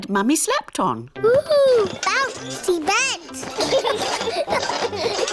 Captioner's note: children laugh